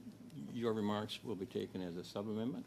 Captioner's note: speaking French